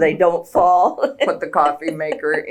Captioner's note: laughs